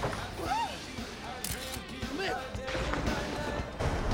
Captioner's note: shutter Clicks